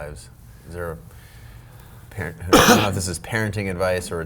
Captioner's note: Rich coughs